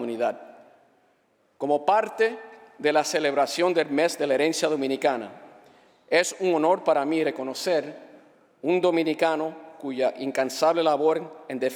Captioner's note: speaking spanish